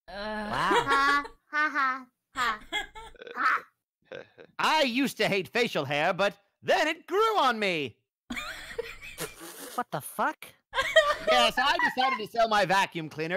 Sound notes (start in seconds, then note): 8.9 soft wheezes